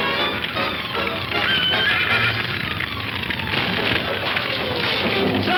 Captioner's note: horse whinnies